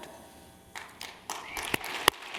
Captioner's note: applause